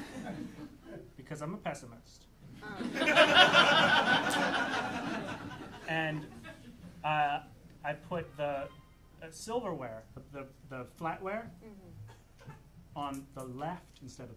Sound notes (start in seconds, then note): 2.6 audience laughing